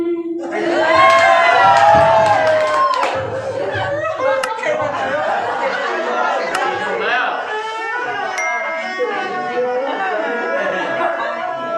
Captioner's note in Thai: ปรบมือ